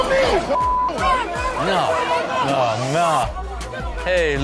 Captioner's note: people arguing